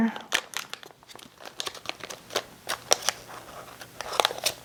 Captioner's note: packaging crinkles